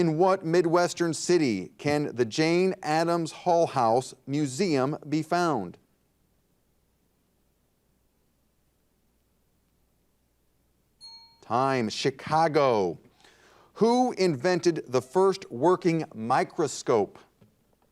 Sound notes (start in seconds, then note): 11.0 bell rings